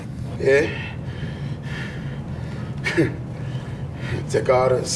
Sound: pants

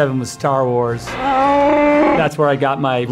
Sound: Chewie roars

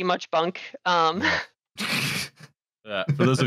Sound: snickers

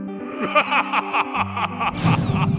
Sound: supernatural laughter

